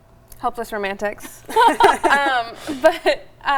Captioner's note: giggling